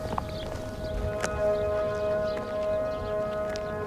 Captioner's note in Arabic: صوت البوق